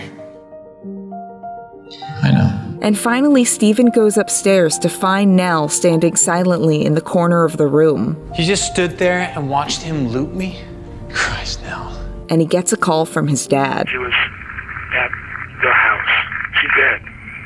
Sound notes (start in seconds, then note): 13.8 Hugh over the phone with lots of static